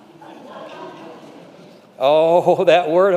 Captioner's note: congregation laughing